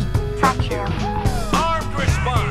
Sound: cheering intensifies

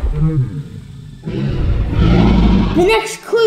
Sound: dinosaur sound

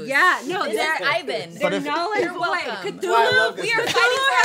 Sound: chattering

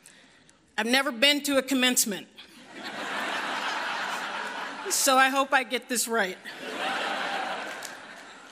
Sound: laughter

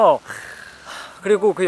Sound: deep sigh

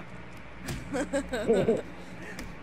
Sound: giggles

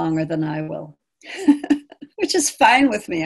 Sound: laughing

